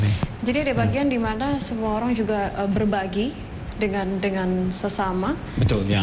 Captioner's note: non-english speech